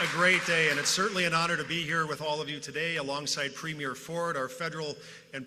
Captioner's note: applause